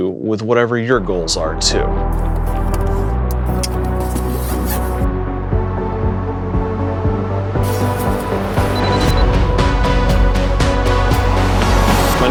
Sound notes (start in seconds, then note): 2.1 camera noises; 2.1 theme music builds; 3.3 zipper closes; 4.2 theme music builds; 7.6 bag rustles; 8.5 digital beeps; 8.7 theme music builds